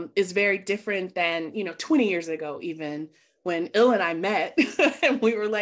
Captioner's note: laughing